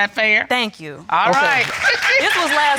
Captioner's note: applause